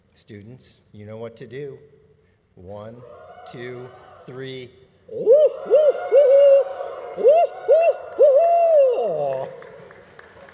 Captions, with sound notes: Students, you know what to do. One, two, three. (students and faculty hooting)